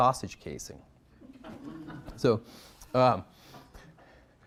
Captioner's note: audience laughing